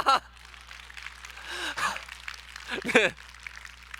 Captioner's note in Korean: 박수 소리